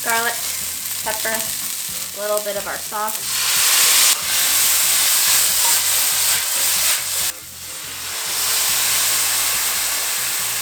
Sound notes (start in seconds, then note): 0.0 sizzling sound; 3.6 sizzling sound